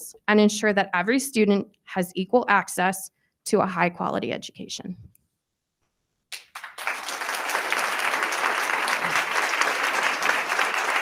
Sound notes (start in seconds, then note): 6.3 attendees applauding